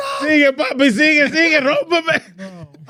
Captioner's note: speaking In Foreign Language